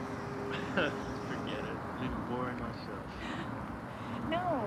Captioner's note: chuckles